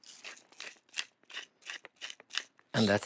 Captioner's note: grinding